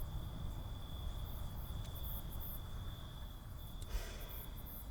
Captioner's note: crickets chirp